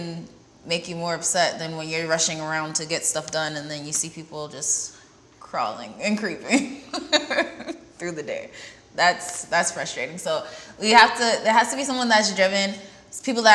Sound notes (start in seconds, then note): 6.9 laughs